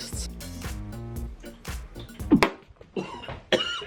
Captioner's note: gags